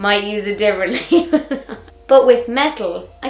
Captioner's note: laughs